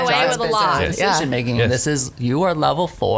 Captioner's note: overlapping chatter